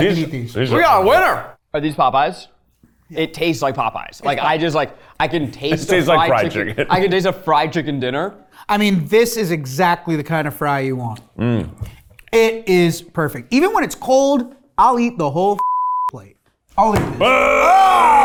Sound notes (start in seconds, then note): 15.6 beep